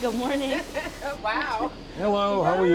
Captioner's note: laughing